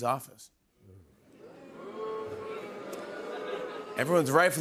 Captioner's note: audience oohs